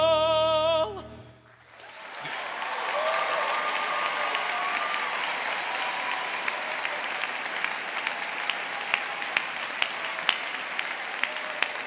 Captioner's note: applause